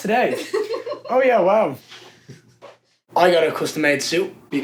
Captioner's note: laughing